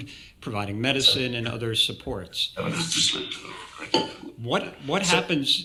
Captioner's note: people chattering